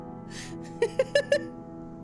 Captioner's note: laughter